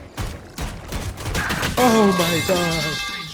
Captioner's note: metal pipe clangs